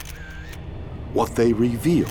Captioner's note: camera clicks